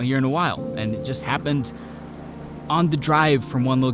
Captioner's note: traffic whoosing